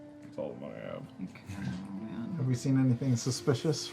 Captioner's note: laughs; mutters